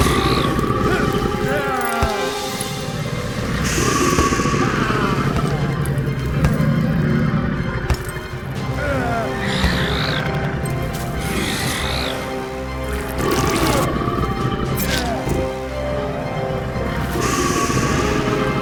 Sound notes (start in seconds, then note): 0.0 creature growling; 0.8 Bruce moaning